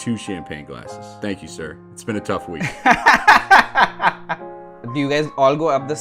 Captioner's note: laughter